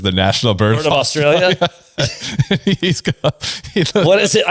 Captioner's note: laughs